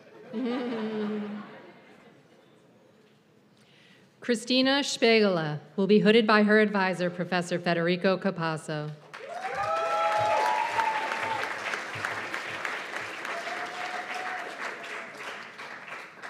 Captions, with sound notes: Christina Spagele will be hooded by her advisor, Professor Federico Capasso. [CHEERS AND APPLAUSE]